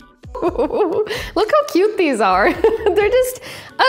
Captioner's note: laughs